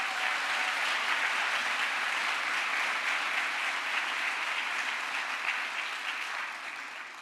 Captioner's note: crowd applause